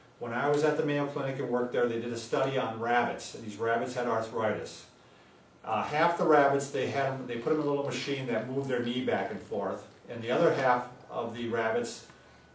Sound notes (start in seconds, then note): none